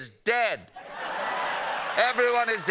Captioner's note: laughter